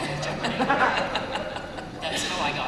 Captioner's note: laughter